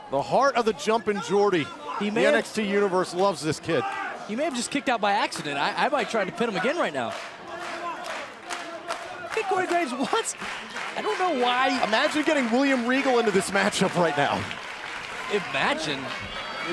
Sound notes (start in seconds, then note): 8.0 crowd cheering